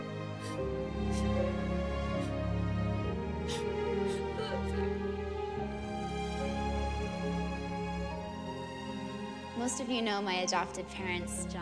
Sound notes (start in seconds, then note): 0.5 Eliza sobbing